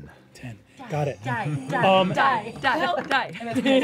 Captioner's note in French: scandant